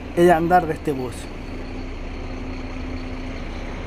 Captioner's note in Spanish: sonido ambiente del bus 'Turbus'